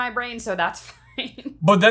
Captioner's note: laughs